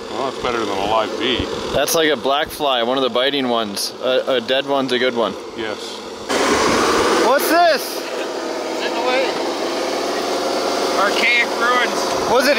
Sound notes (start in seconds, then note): 6.8 engine runs